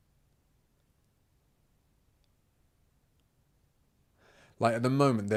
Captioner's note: silence